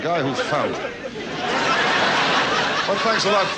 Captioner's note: audience laughs